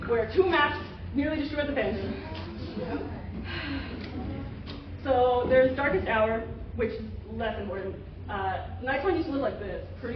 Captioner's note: sigh